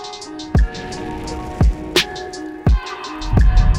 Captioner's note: flames whoosh